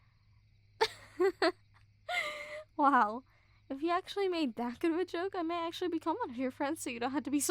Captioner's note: laughs